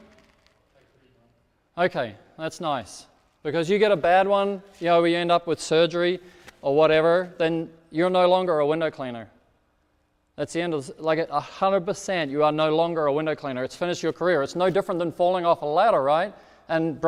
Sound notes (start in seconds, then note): 1.0 speaks off microphone